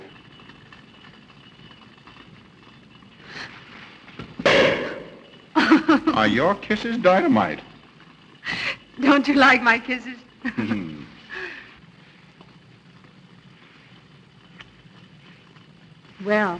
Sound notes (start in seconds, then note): 4.2 pop; 6.4 laughs